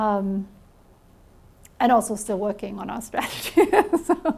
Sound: chuckles

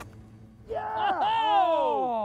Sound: gunshot

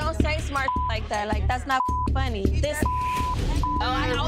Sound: beep

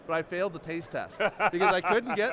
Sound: host laughing

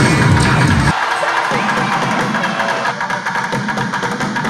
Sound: students cheering; rhythmic drumming

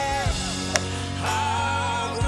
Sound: golfball wacked

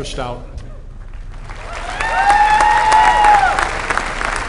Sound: applause

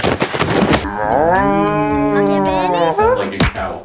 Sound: cow noise

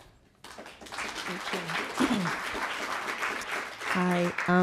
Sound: audience applauding

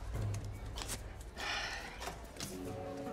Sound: sighs

